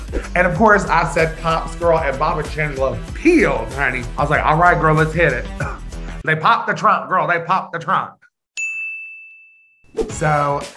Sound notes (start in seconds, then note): 8.6 bell pinging